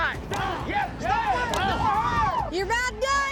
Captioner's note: chopping wood, cowboys cheering